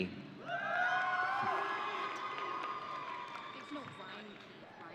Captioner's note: audience cheering